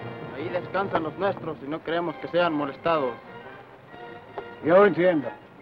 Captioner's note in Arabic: الأمريكي الأصلي يتحدث لغة أجنبية